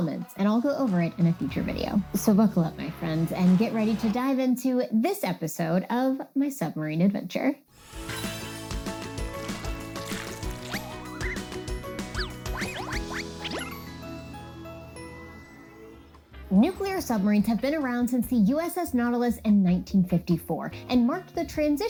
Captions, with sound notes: and I'll go over it in a future video. So buckle up, my friends, and get ready to dive into this episode of my submarine adventure. -[upbeat music] -[water sloshing] Nuclear submarines have been around since the USS Nautilus in 1954 and marked the transition